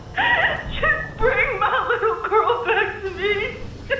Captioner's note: crying